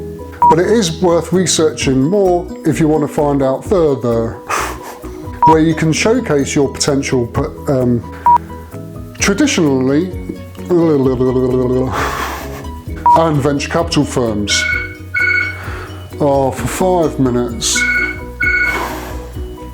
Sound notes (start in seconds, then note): 0.0 beep; 8.2 beep; 14.5 beep; 14.5 phone ringing in background